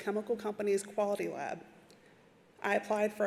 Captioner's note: none